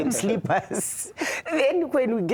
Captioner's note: laughter